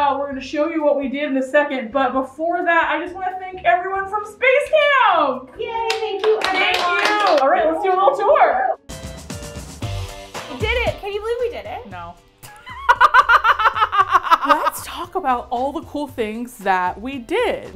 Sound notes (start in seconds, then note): 5.8 team claps; 8.9 upbeat Music; 11.9 dryly; 12.4 both laugh